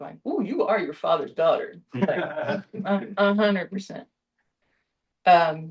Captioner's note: laughter